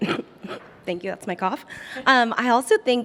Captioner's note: coughs